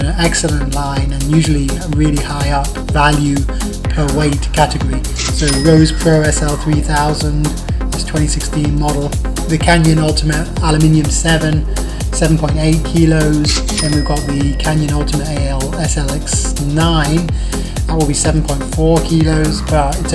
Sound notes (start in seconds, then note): 13.6 dings